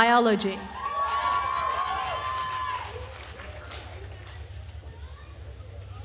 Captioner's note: attendees cheering and applauding